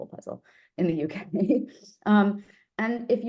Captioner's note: laughs